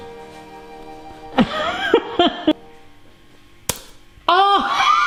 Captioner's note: laughs